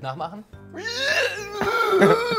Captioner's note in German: Er quiekt